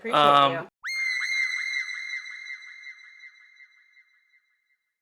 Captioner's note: shrill shrieking